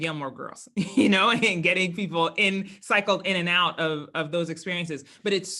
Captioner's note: laugh